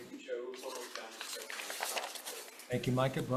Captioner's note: faintly speaking